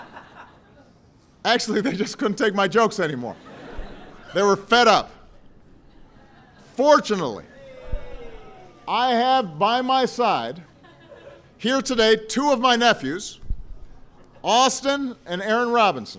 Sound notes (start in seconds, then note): 3.2 laughter